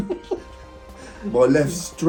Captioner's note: both laughing